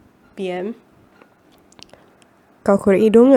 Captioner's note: lip smack